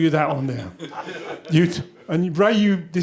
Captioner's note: laughter